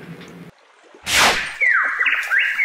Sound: swish

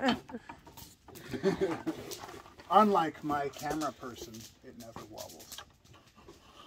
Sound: chuckles

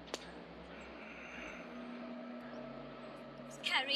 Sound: twig snaps

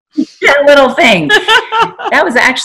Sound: laughing

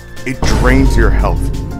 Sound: boom

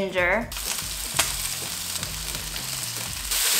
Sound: sizzling

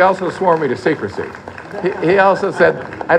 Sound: laughter

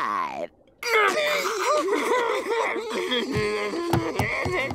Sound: laughing

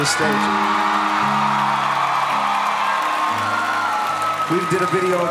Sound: audience cheering

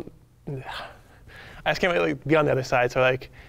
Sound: sighs

